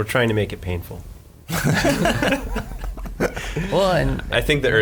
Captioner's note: laughing